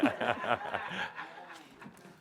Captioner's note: laughter